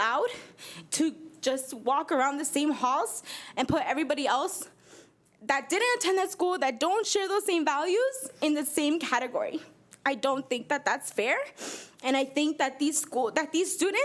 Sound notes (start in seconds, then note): none